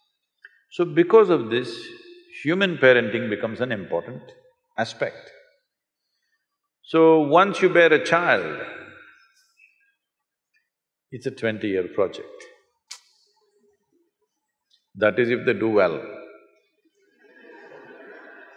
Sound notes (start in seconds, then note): 17.2 laughter